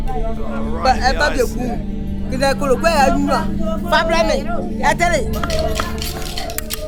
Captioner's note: woman speaking in foreign language